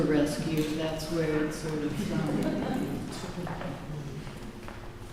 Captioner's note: laughter